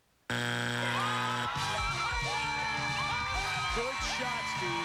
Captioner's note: cheers and applause